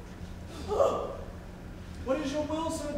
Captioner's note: Tranio gasps